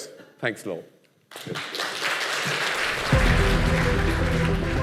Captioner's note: applause